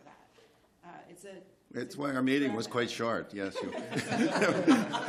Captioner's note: laughter